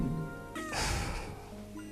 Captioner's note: sigh